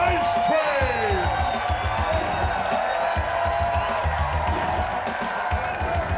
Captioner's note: audience applauds and cheers